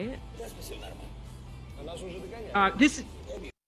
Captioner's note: characters conversing in Ukrainian